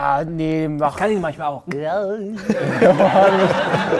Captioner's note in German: Ekelgeräusch